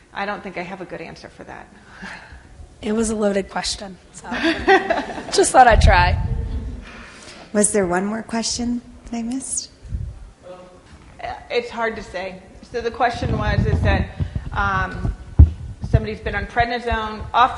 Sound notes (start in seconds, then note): 4.3 laughs